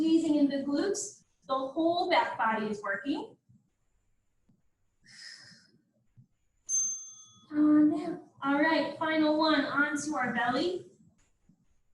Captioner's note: ding